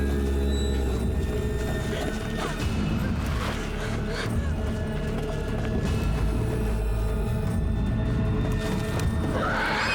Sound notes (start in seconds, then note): 0.2 low moan; 3.3 panting